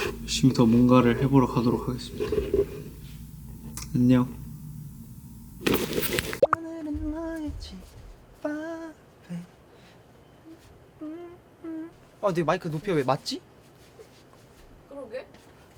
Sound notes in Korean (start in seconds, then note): 6.4 콧노래 부르면서